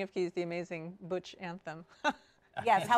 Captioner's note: laughs